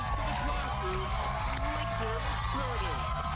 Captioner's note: cheers and applause